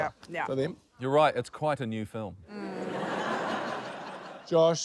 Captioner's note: laughter